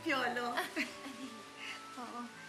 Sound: chuckles; both chuckle

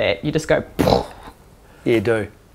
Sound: makes crash noise

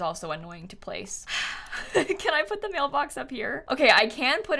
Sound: sighs

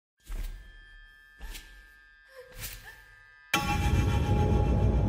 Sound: footsteps

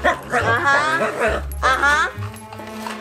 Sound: Wiggles barks

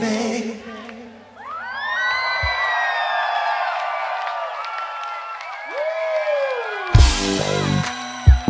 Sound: audience cheers

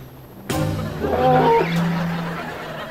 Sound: moaning

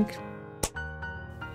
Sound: slightly punch but not very clappy clap

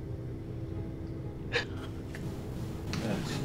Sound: sobbing

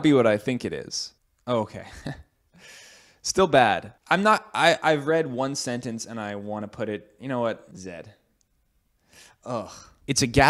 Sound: laugh; laughs

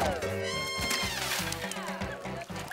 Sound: splashing

